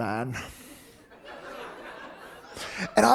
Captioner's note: audience laughing